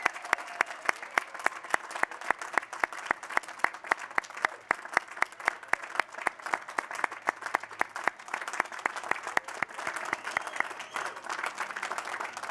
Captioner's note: cheers and applause